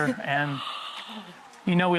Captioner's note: gasping